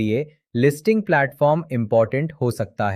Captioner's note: thoughtful